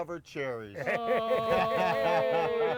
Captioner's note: all Laughing